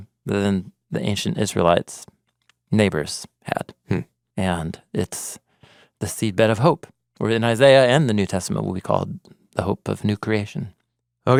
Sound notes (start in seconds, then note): none